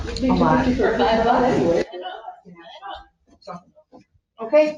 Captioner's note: background chatter